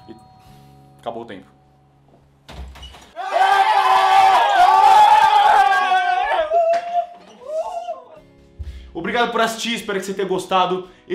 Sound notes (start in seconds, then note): 3.2 agitated screams